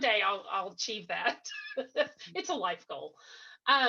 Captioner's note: laughs